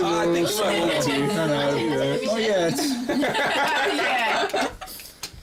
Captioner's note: chatter